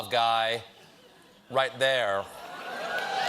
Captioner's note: cheers and applause